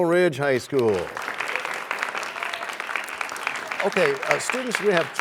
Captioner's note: applause